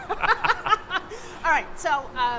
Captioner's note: laughs